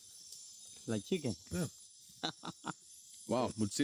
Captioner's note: laughs